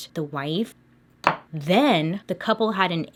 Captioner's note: thudding